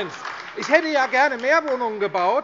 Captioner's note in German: Beifall AfD - Zurufe